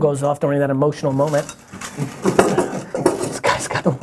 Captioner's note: rustling paper in bucket